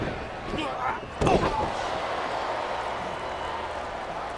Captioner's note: wrestlers thud and grunt; crowd clamoring